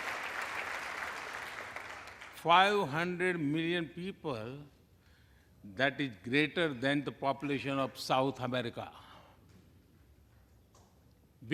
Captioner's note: applause